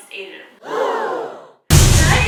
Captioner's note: gasps; deep booming